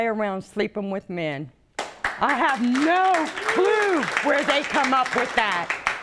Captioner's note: audience clapping